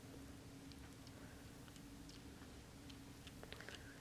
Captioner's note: none